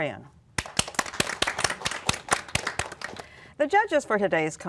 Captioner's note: applause